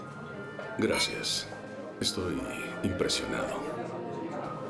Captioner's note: clink